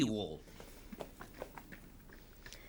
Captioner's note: shuffling Feet